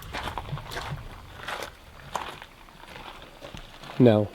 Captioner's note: footsteps thudding